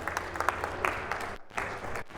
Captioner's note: audience applauding